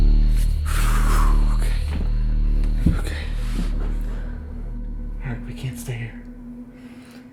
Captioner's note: sighing in relief